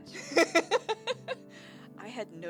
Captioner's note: laughing